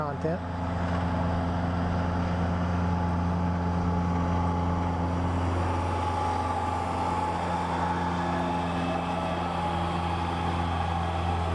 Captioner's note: tractor/mower sound